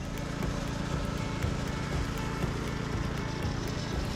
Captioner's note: tiller humming